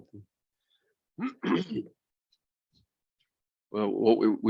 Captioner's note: clears throat